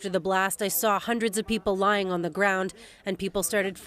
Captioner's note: speaking Alternative Language